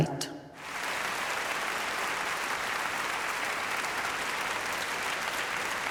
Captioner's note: applause